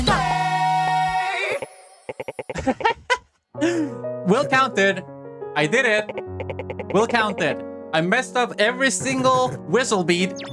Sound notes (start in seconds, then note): 2.2 chuckles